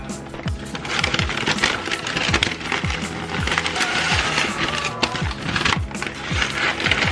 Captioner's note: paper crinkling